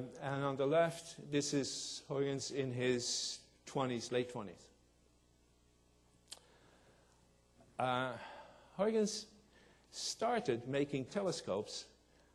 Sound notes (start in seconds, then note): none